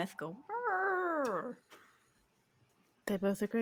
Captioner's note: imitates mammoth